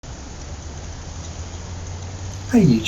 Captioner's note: traffic Noise